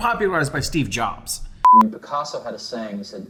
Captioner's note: beeping